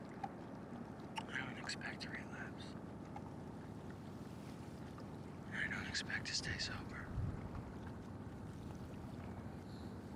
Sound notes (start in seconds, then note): none